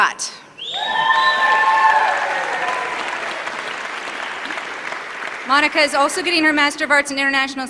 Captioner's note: applause